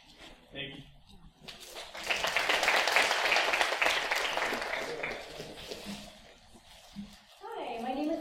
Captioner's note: applause